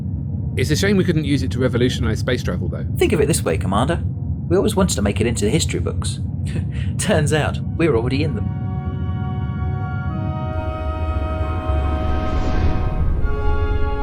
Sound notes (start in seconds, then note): 6.5 chuckles